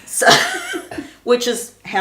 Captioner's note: both laughing